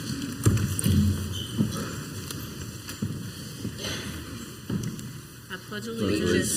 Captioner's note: council members and audience chairs scraping